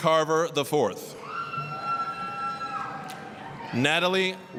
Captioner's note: applause, cheering